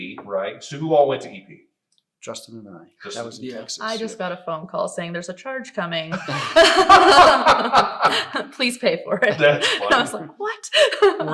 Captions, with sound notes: So who all went to EP? - Justin and I. That was in Texas. - I just got a phone call saying there's a charge coming. (all laugh) Please pay for it. - That's funny. - I was like, what?